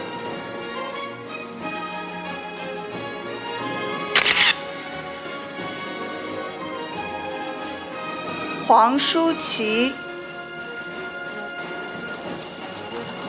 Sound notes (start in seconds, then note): 0.1 orchestral music; 4.2 camera shatters; 5.0 orchestral music; 10.2 orchestral music